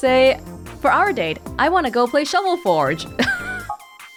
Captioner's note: chuckles